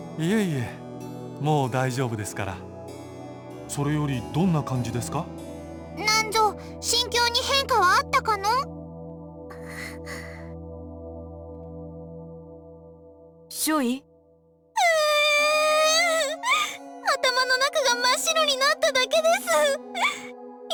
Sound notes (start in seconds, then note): 9.5 stressed breath; 14.8 sob